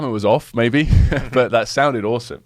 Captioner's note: both laughing